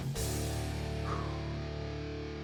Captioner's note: sharp exhale